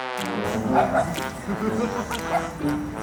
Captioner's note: woof woof!